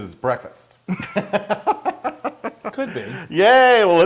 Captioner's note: laugh